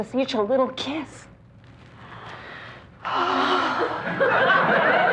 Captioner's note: dreamily exhaling; audience laughter